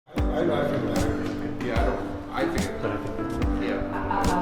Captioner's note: group chatting